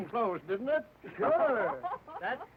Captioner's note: guests laughing